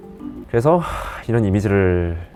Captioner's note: sighs